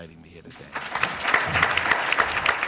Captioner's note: applause